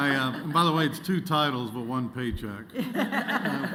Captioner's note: laughter